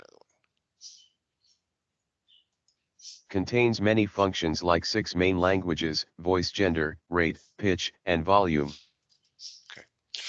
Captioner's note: computer Speaking